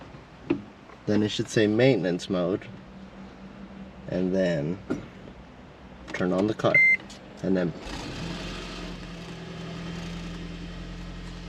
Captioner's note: engine starts